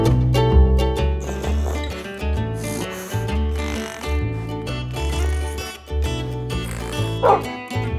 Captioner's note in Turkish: Horlama ve Hırlama Sesi; Havlama Sesi